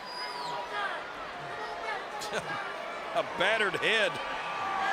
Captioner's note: crowd murmuring